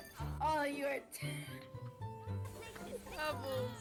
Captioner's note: laughing